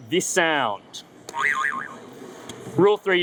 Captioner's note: spring bouncing